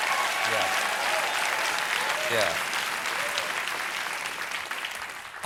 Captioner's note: cheers and applause